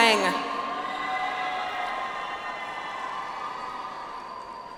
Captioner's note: audience applauds